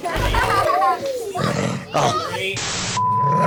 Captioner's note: laughter